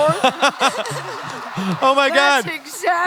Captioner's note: laughter